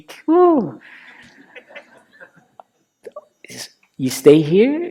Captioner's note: laughter